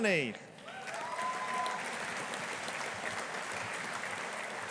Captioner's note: audience applauding